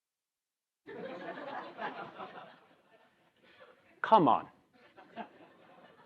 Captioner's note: laugh